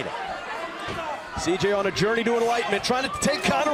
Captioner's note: crowd cheering